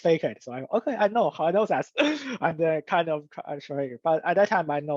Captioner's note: laughs